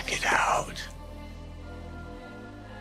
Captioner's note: whispering